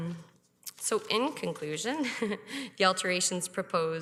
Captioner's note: chuckles